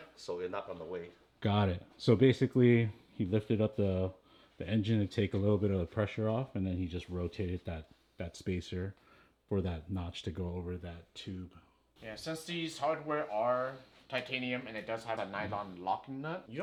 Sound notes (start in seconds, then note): none